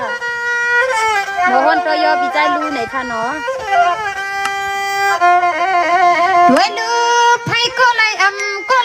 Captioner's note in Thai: ปรบมือ